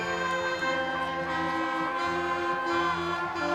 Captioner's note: crowd cheering